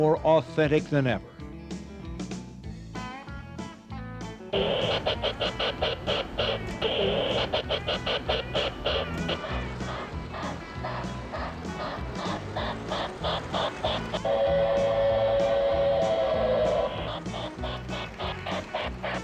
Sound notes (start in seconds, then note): 3.5 upbeat music; 6.3 rail sound; 12.1 train engine; 16.1 train whistle blows